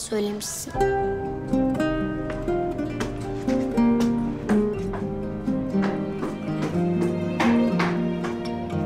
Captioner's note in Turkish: Müzik - Duygusal; Ayak sesi